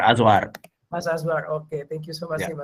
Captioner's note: non-english speech